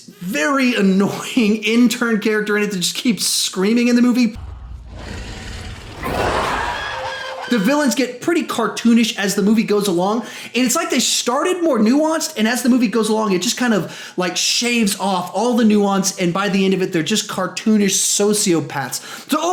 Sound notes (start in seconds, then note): 6.0 high pitched scream; 6.3 monstrous roar